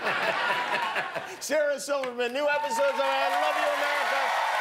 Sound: laughter

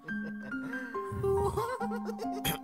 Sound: Flowey is laughing in the background

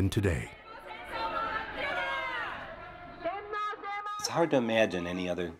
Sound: people shouting in foreign language

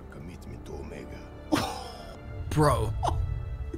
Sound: chuckles

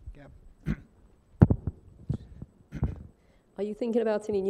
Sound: clears throat

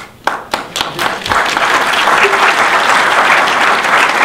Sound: audience applause

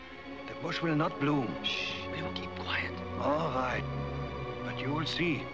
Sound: whispering

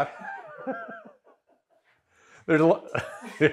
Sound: both laugh

